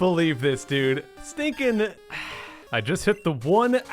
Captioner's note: sigh